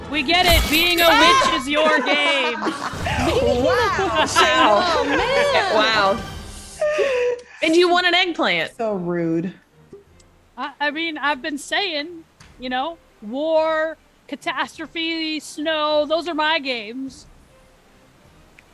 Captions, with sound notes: >> We get it being your game. >> [LAUGH] Wow. >> And you want an eggplant >> So rude. I mean, I've been saying war catastrophe snow Those are my games.